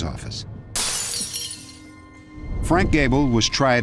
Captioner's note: breaking glass